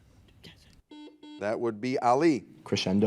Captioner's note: buzzer